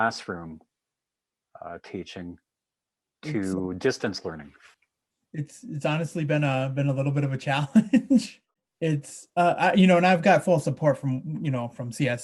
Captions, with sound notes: transfer from the classroom teaching to distance learning? - It's honestly been a little bit of a challenge. (he laughs) It's you know, and I've got full support from,